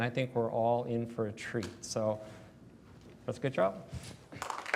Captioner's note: applause